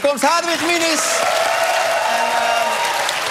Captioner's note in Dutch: applaus